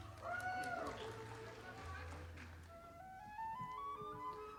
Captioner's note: audience applauding